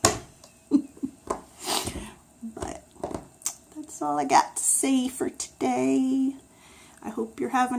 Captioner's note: laughs